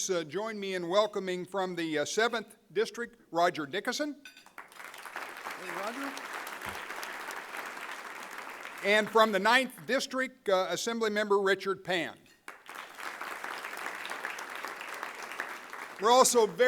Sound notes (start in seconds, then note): 4.4 applause; 12.4 applause